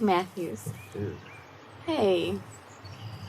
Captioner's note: Adam groaning